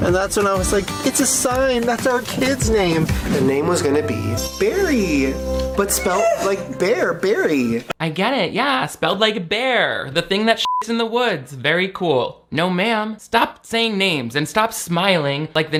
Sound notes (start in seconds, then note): 10.6 beep